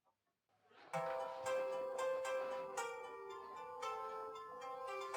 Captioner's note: phone starts ringing